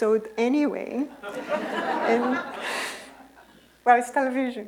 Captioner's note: laughter